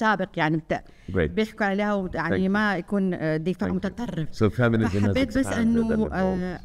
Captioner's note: speaking foreign language